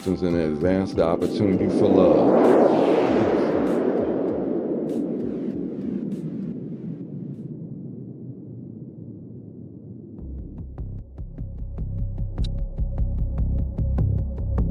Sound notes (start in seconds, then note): 3.6 gunshots; 3.6 wind